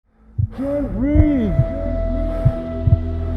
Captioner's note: echoing